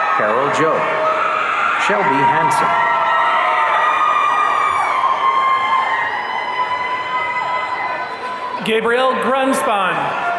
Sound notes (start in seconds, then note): 0.0 audience cheering; 3.2 audience cheering